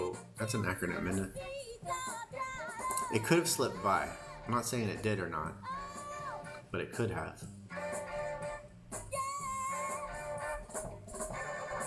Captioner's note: crying